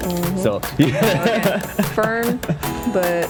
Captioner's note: laughs